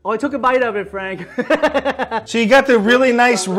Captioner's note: laughs